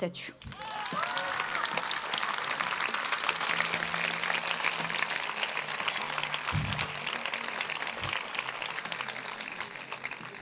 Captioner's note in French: Applaudissements